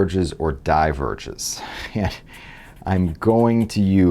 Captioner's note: laugh